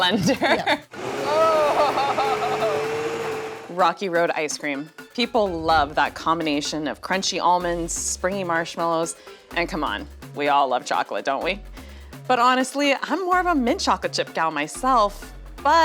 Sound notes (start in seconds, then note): 0.8 blender whirring